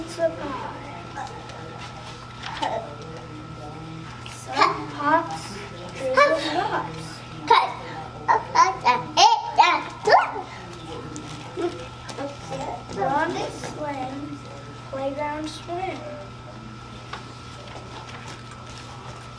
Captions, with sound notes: (toddler babbles) Some tots, dribble lots. (toddler babbles) On swing, playground swim.